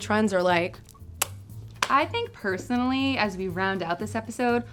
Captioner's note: kissing sound